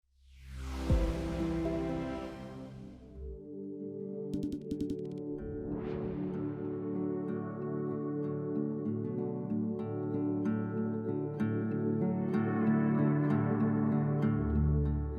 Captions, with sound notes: [digital noise] dididididi [soft music]